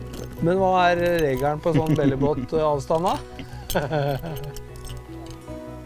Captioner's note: giggle